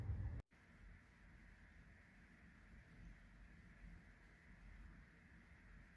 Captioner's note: ambient sound of nature